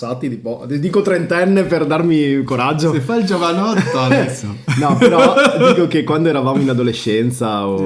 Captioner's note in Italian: risate